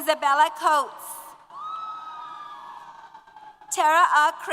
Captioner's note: applause & Cheers